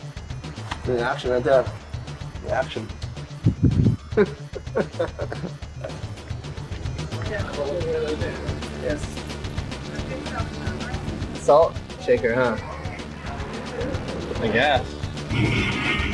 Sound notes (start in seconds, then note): 4.0 band members laughing; 7.7 people chattering